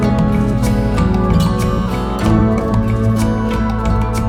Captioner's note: upbeat music; water splashing; upbeat music